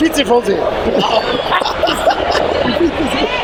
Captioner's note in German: lacht